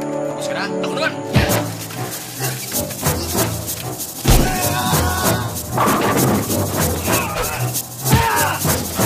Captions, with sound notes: Are you done? My turn. [screams] [screams]